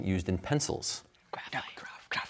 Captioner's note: whispering